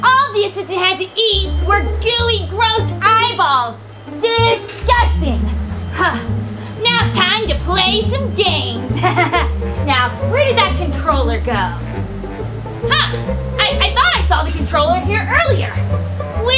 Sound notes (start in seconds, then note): 9.1 laughs